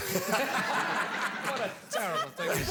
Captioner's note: laughter